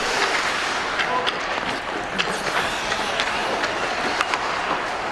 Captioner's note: hockey puck clanking